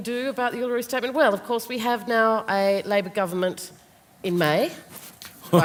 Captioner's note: laughter, crosstalk